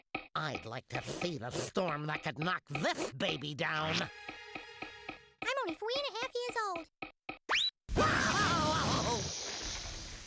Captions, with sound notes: I'D LIKE TO SEE THE STORM THAT COULD KNOCK THIS BABY DOWN. I'M ONLY 3 AND A HALF YEARS OLD. [Daffy crying]